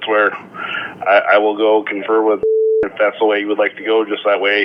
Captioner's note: beep